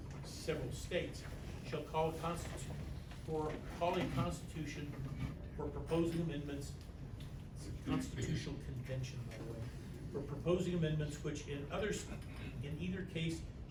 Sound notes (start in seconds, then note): 3.3 stammers